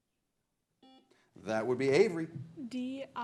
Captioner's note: buzzer blares